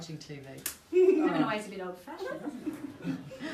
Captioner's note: group laughing